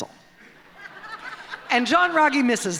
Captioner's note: laughter